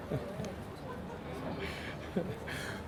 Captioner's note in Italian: risate